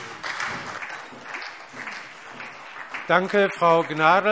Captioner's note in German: Beifall SPD